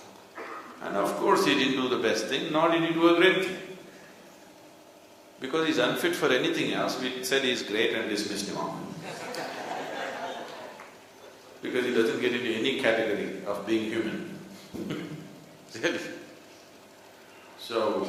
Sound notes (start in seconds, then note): 9.0 laughs